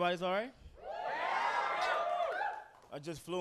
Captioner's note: audience cheering